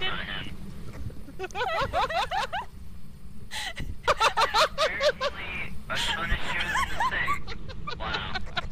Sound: giggling; holler and laughing

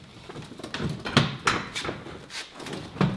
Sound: metallic clattering; banging

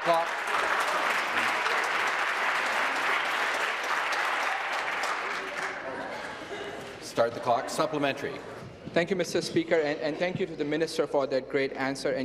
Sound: some Applause

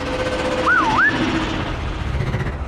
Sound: whistles

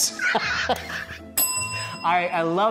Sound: laughing; bell dinging

